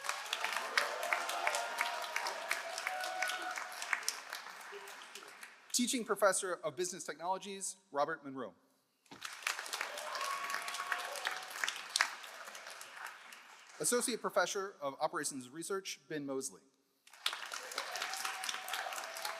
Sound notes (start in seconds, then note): 0.0 all cheering; 0.0 all applauding; 9.1 all applauding; 9.5 all cheering; 17.0 all applauding